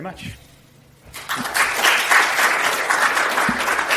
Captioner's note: clapping